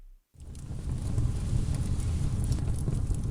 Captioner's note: fire sound effect